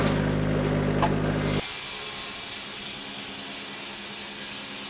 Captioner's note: blade sawing